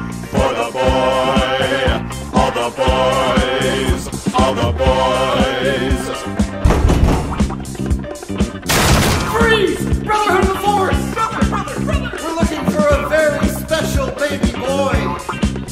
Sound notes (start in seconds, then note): 6.6 banging on door; 8.6 door bursts open